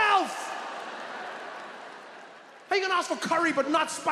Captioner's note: audience laughs